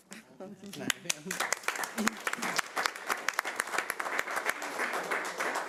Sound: audience applauding

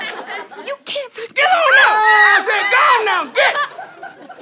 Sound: screams

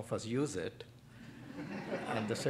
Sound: laughter

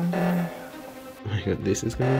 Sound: loud beeping

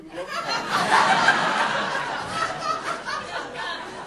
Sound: audience laughing

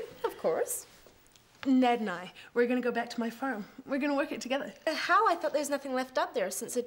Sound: none

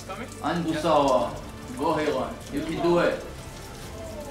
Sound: Korean

